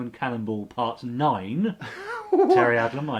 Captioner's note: laughs